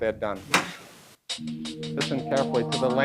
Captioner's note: click